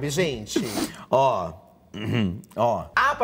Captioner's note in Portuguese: pigarreia